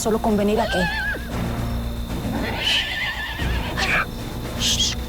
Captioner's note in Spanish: Relinchos